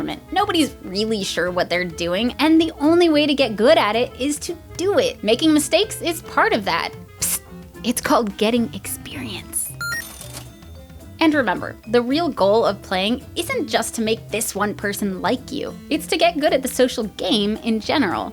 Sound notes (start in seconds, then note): 7.2 psst; 9.8 ding